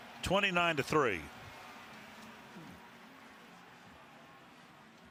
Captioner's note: crowd clamoring